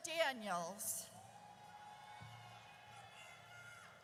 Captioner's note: audience cheers